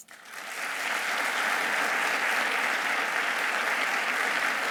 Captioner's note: audience applauding